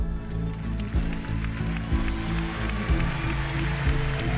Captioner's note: soft music; cheers and applause